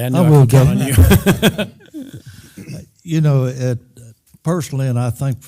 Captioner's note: laugh